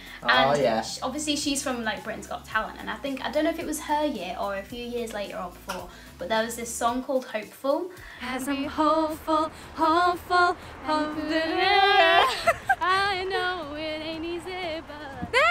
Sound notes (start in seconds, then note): 7.8 singing; 11.8 humming; 12.8 singing